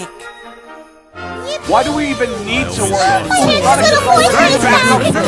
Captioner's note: everyone arrives and cheers on Sonic